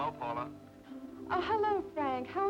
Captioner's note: on telephone